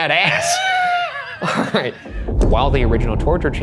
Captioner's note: chuckling